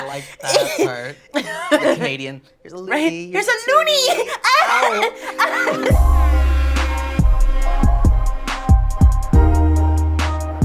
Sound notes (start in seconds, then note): 1.3 laughs; 3.7 laughs